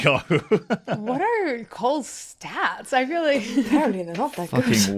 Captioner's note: laughs; laughs